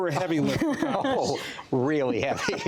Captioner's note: laughter